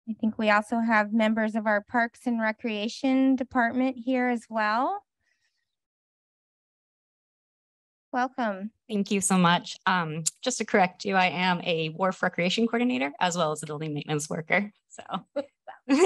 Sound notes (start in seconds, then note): 5.0 silence; 15.8 chuckles